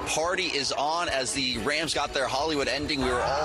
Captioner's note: cheers